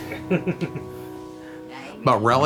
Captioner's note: son chuckling